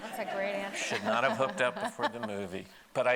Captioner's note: laughing